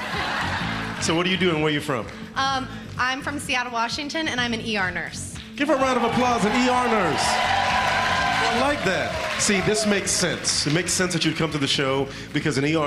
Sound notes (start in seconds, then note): 0.0 laughter